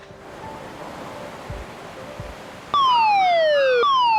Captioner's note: waves crash; alarm blasts